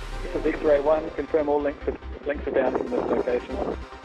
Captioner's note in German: Voiceover